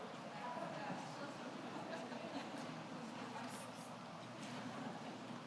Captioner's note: people chattering